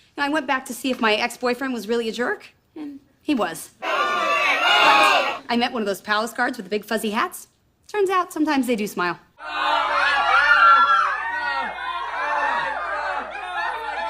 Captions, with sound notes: I went back to see if my ex-boyfriend was really a jerk, and he was. (impatient screams) But, I met one of those palace guards with the big fuzzy hats. Turns out, sometimes they do smile. (horrified, agonizing, petrified, miserable screams)